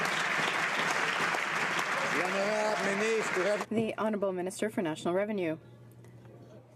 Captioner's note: some Applause